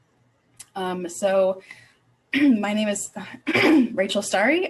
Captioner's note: clearing throat